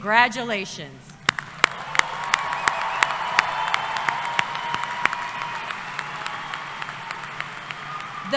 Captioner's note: applause